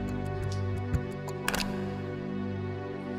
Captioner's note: plugging in phone sound